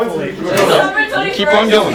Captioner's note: talking